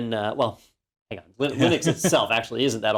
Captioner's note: laugh